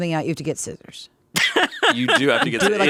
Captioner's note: laughing